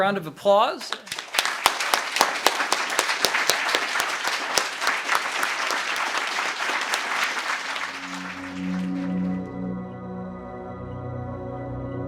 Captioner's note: applause